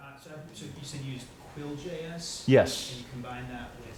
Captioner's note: voiceover